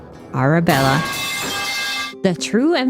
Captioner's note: metal pipe falls